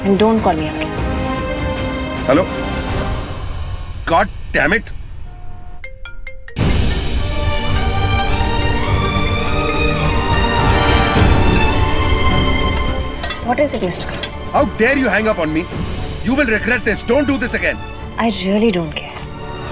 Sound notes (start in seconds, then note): 5.9 Phone ringing